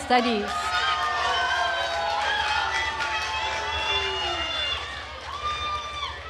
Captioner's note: attendees cheering and applauding